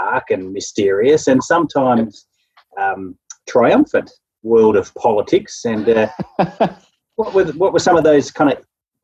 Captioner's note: laughing